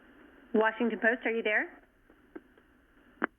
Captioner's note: silence